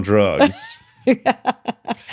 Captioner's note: laughing